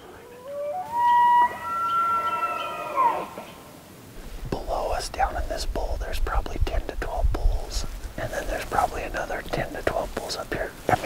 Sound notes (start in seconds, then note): 0.1 elk Bugling